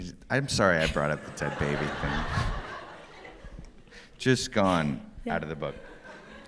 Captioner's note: laughs